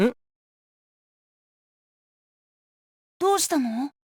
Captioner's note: silence